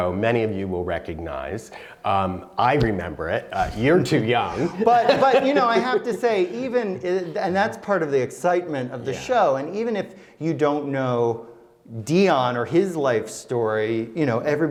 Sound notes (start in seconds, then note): 3.5 laughs